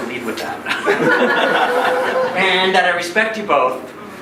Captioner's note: laughing